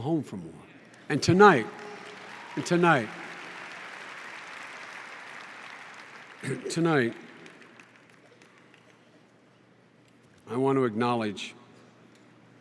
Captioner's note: voice breaking from emotion